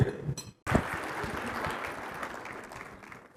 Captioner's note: applause